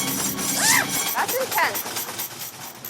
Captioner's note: intense music; whoops; squeals